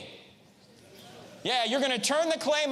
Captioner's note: audience murmurs